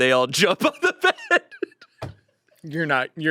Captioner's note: laughs